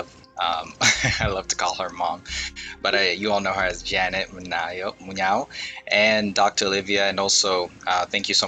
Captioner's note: laughs